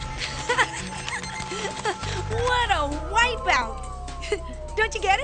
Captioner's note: laughing